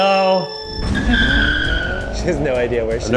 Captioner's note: tires screech